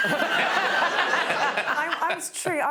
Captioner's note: laughter